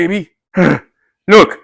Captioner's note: sigh!